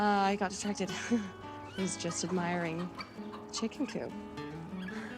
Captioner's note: chuckles